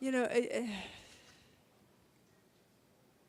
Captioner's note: sighs